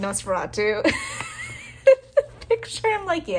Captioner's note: laugh